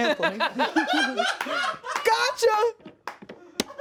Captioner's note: laughs